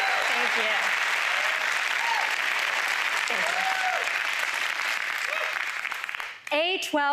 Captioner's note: applause